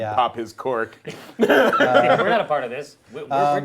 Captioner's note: group laughs